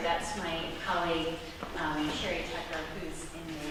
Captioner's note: none